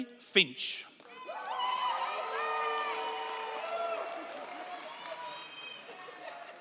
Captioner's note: crowd clapping; crowd cheering